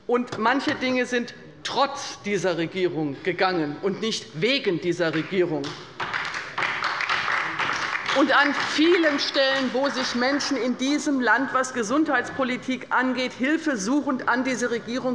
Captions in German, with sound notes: Manche Dinge wurden trotz dieser Regierung umgesetzt und nicht wegen dieser Regierung. [Beifall bei der LINKEN und bei Abgeordneten der SPD] An vielen Stellen, an denen sich Menschen in diesem Land mit Blick auf die Gesundheitspolitik hilfesuchend an diese Regierung